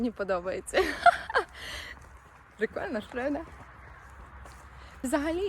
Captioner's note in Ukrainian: сміх